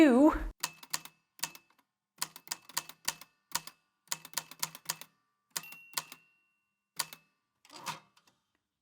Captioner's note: the typewriter clicks and clacks away, with dings here and there